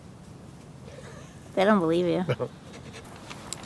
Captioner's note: laughter